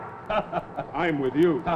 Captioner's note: Vito chuckles